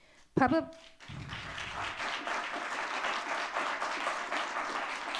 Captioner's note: audience clapping